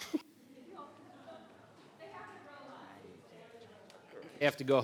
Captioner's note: people chattering